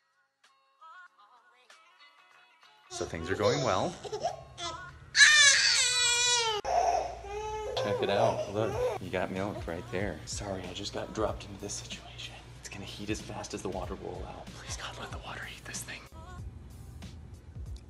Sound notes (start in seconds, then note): 1.1 funky music; 5.1 baby cries